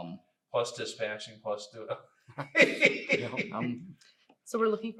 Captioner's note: laughs